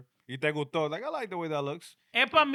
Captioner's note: speaking In Foreign Language